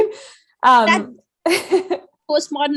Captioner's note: laughs